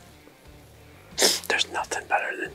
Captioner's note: sniffles